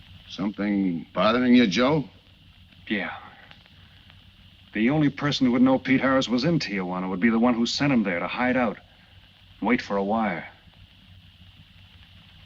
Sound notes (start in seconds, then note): none